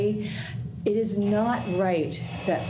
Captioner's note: alarm ringing